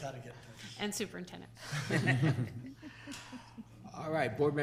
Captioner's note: all laughing; board members laughing